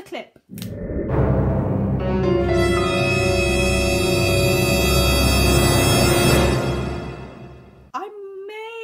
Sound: monster Roars

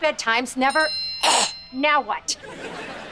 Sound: phone rings

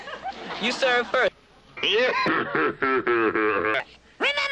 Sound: wicked laughter gets deeper and slower

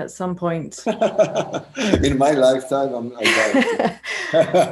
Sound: laughter

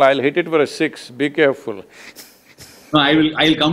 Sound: laughs

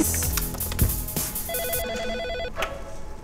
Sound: telephone rings

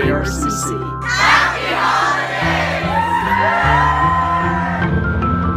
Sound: cheering

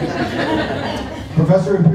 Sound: laughter

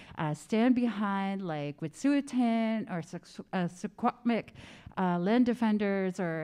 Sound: speaking in Indigenous language

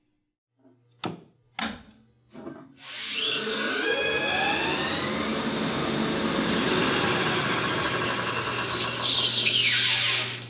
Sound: machine noises

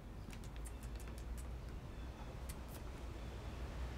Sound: kiss noises

